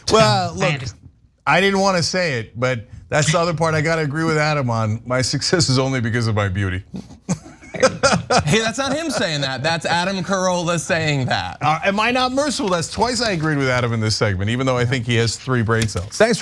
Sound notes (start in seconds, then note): 7.1 laugh